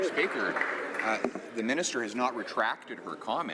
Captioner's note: some Applause